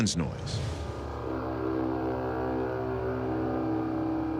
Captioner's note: horn-like sound